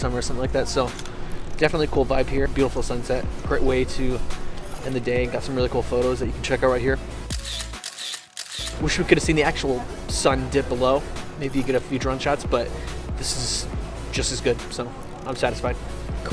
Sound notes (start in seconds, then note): 7.3 camera shutter clicks